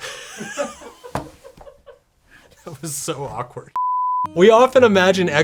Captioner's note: laughing